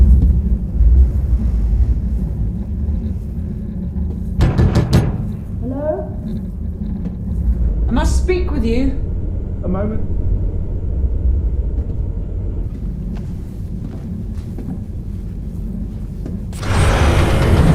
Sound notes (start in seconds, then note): 4.4 стук в дверь